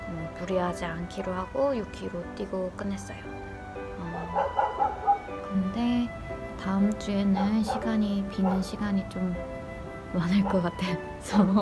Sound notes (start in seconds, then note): 4.3 the dog barks